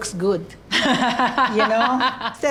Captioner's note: laughs